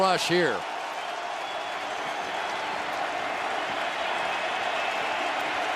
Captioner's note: cheering